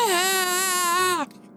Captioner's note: screaming